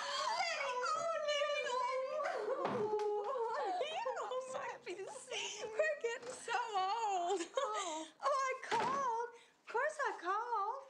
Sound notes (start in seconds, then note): 2.8 giggles; 7.2 laughs